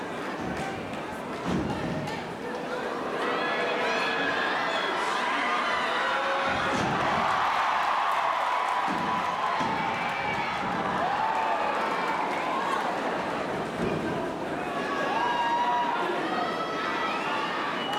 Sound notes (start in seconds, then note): 6.7 audience cheering; 6.7 bodies thudding; 8.9 hand tapping; 12.7 audience cheering and shouting